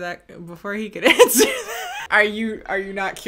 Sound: laughs

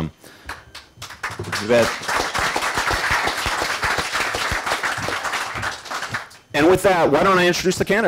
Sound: applause

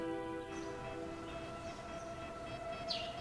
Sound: spooky sounds

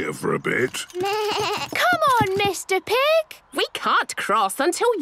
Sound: bleating

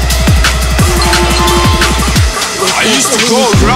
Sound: phone rings

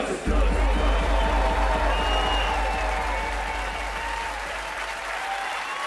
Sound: audience cheering and applauding

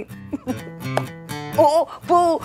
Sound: Sheena laughs

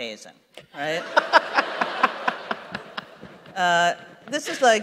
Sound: laughter

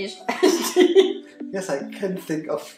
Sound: laughs

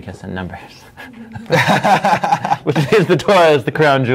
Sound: laughing

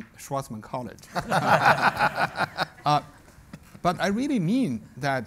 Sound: everybody laughs

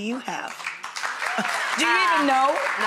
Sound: audience applause

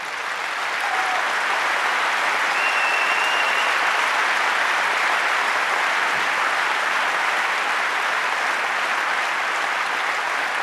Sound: applause

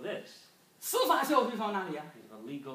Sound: speaking foreign language

